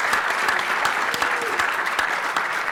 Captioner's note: applause